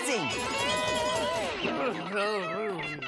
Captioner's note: woozy